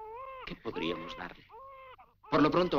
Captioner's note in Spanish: baby stops crying